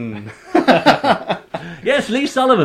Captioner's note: laughing